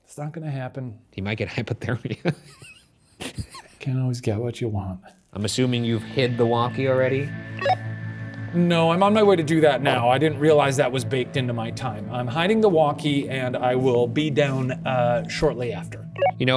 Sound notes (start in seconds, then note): 3.1 laughing